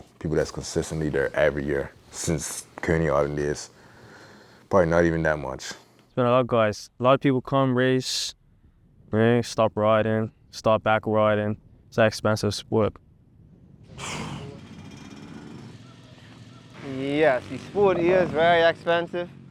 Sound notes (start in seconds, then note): 13.9 exhales